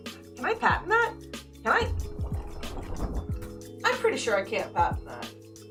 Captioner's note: rustling noises made with a watercolor pad because I'm not good at this